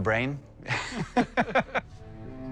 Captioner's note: both laugh